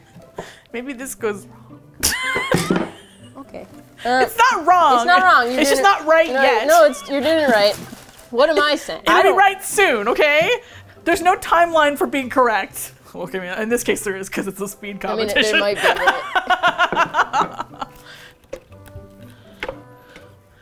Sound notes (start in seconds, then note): 2.3 wood clunks on floor; 4.2 indignantly; 15.4 laughs